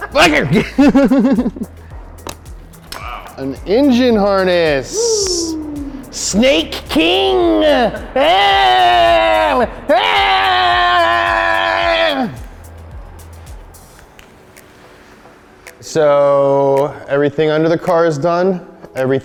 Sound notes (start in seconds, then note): 0.0 laughs; 7.8 shouts